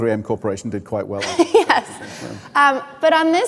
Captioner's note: laughing